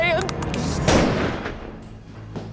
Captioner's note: cocking rifle; gunshot